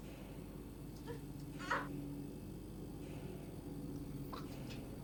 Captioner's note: Heather grunting